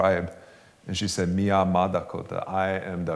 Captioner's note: non-english speech